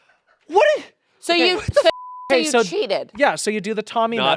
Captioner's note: beep